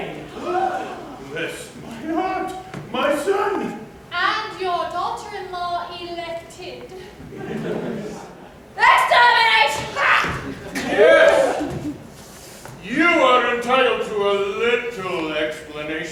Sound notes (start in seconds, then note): 0.3 general gasps; 7.2 laughter; 8.5 KATISHA yells